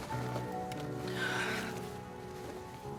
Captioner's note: moan